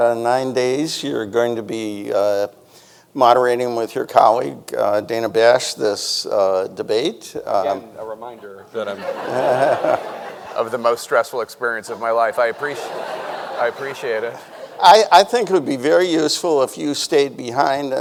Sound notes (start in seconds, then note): 8.8 everyone laughing; 11.9 audience laughing